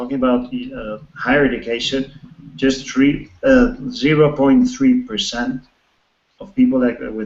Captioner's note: talks to in Spanish